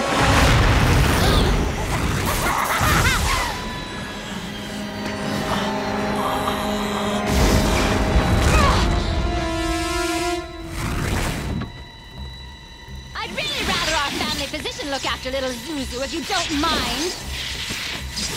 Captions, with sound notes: [laughing] [groaning] [groaning] I'd really rather our family physician look after little Zuzu if you don't mind.